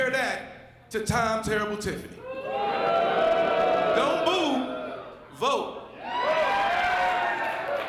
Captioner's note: applause